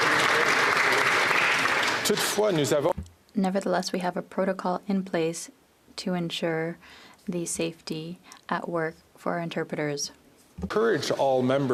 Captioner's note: applause